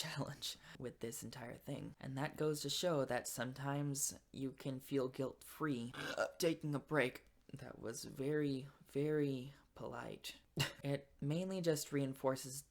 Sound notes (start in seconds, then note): 4.8 burps absurdly loud; 9.4 laughs